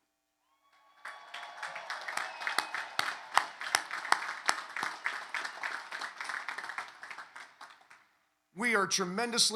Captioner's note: applause